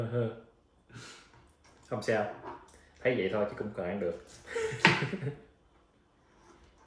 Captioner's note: giggle in embarrassment